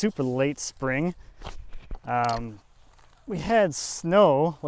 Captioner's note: shovel crunches